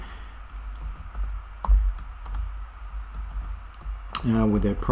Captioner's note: typing